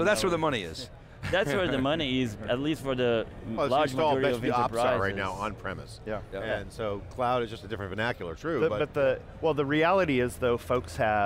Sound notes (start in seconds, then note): 1.2 laughter